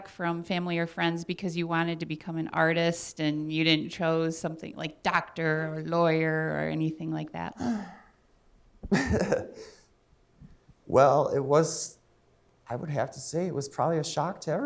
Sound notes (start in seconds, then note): 7.6 sighing; 8.8 laughing